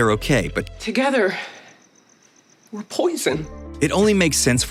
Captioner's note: nervous exhale